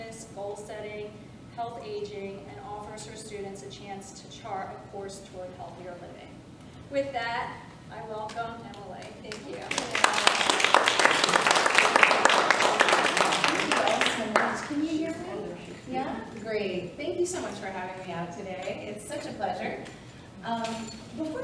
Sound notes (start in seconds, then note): 9.3 audience applauding